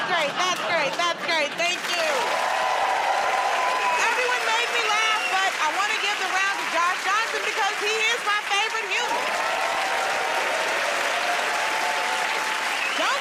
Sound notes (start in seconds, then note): 2.7 cheering and applause; 9.6 cheering and applause